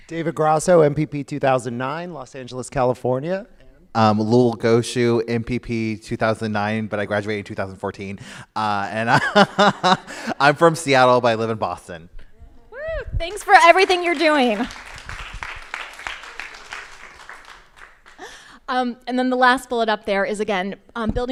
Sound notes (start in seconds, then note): 9.4 laughs; 14.9 crowd applauding